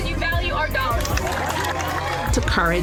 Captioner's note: cheering